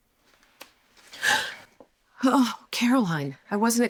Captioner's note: gasps